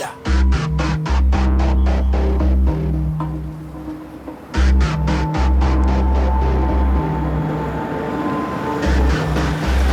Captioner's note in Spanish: Ruido del vehículo